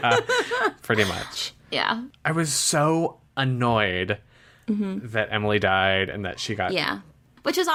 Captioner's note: laughs